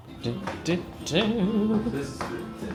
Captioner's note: hums happily